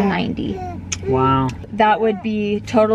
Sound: baby grunting

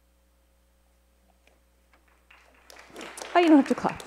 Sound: applause

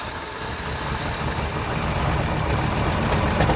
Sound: engine purrs

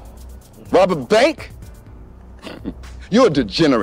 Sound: scoffs

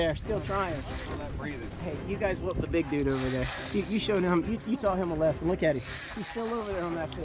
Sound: breathing

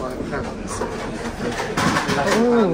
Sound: people chattering

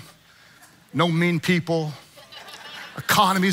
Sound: congregants laughing

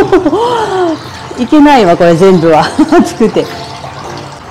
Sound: laughs; laughs

